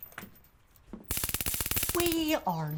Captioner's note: taser zapping